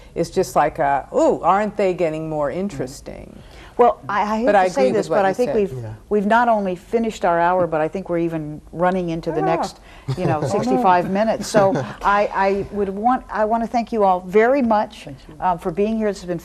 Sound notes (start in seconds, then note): 11.5 everyone laughs